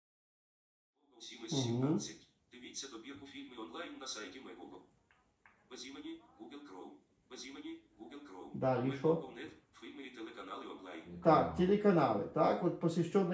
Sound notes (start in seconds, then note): 1.1 text to speech from a laptop